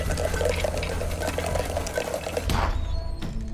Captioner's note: crackling